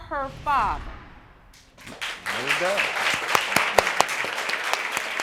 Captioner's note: all clapping